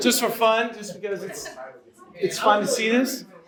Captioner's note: audience laughs